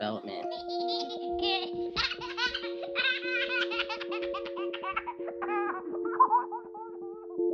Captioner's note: baby laughing